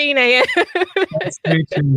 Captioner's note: laughs